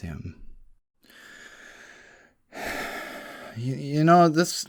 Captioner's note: sigh